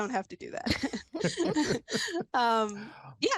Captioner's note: chuckling